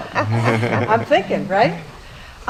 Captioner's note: laugh